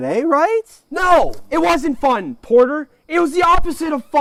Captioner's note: shouting